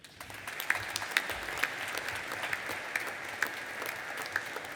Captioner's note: audience applauding